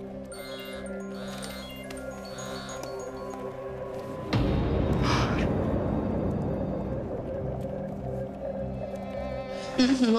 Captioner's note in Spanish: Suena el celular